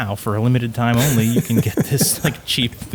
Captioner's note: laughing softly; chuckles